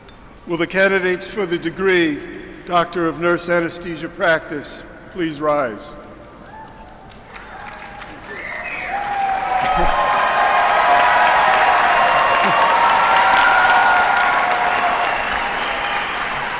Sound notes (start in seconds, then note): 4.8 applause